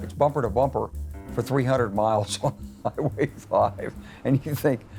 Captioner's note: laughs